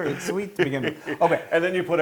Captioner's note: laugh